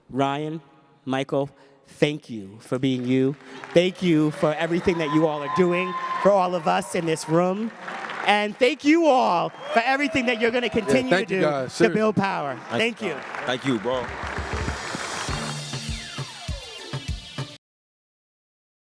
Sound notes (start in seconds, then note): 6.6 applause; 15.5 upbeat hiphop music